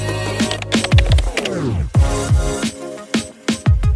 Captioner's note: keyboard typing; upbeat music